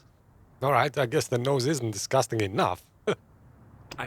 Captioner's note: laughs